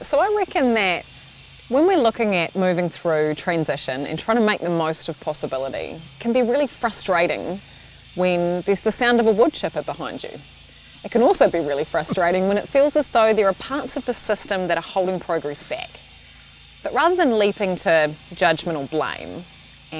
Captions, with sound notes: - All right, so, I reckon that when we're looking at moving through transition and trying to make the most of possibility, it can be really frustrating when there's the sound of a wood chipper behind you. (laughs) It can also be really frustrating when it feels as though there are parts of the system that are holding progress back. But rather than leaping to judgement or blame,